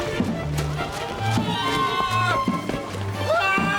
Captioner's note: simpson screams in pain